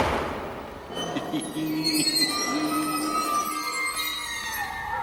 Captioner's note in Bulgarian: смее се